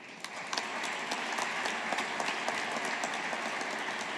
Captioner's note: audience applauding